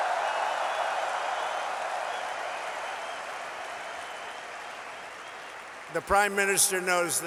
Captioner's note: applause